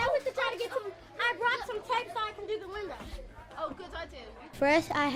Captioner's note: children chatter excitedly